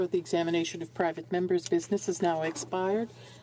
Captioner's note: speaking French